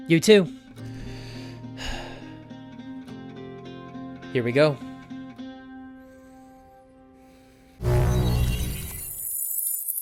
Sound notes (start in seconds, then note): 0.9 sigh